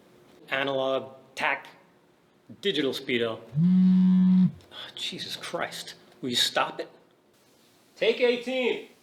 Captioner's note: buzzing